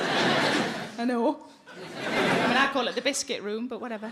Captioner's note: audience laughing